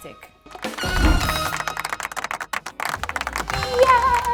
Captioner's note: audience clapping